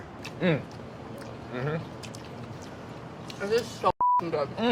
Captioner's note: sound of enjoying food